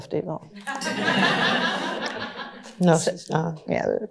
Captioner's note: laughter